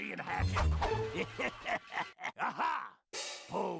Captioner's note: laughing maliciously